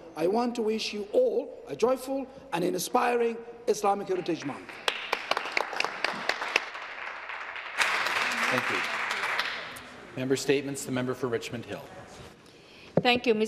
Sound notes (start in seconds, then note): 10.0 some Applause